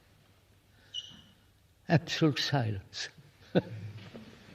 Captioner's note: laughs